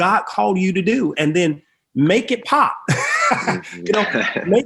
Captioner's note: laughs